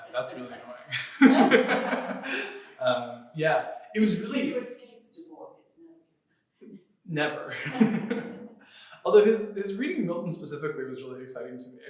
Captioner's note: laughter